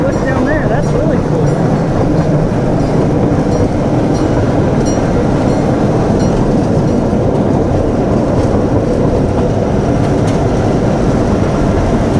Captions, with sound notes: Oh, look down there, that's really cool. (train rumbling)